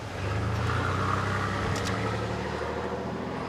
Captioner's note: car revving